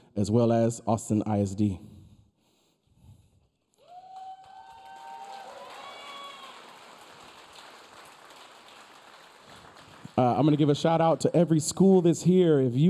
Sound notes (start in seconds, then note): 3.8 audience cheering; 3.8 audience applauding